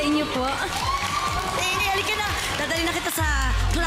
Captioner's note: applause, cheering